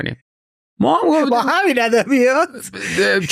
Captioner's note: laughs